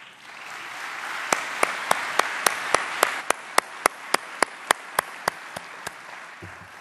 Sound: applause

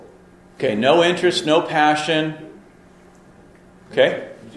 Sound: voiceover

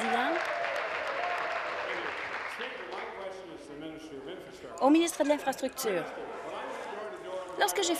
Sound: applause

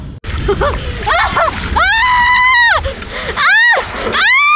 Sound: screaming

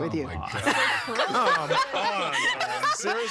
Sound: laughing

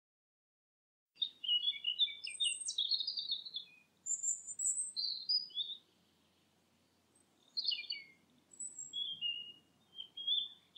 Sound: sound of birds

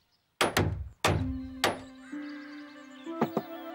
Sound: hammering

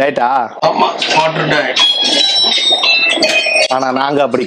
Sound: phone rings

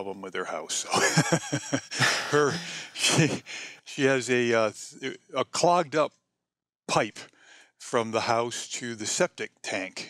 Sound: laughs

